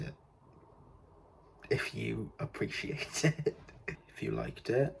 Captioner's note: laughing at self